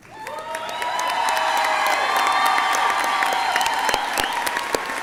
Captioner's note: audience clapping